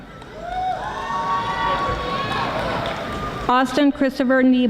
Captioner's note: audience applauding